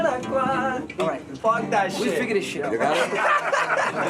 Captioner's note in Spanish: en inglés; risas